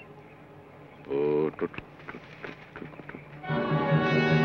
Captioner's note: Joshua hums melodically; tense orchestral music